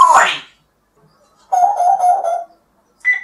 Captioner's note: telephone ring